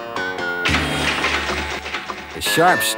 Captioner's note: metal clanging